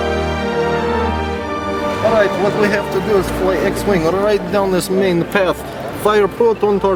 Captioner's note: in Russian accent